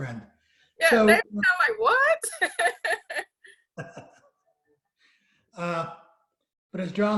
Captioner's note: laughs